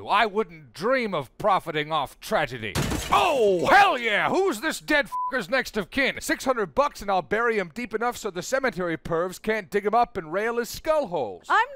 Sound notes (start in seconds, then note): 2.7 crashing; 5.1 beep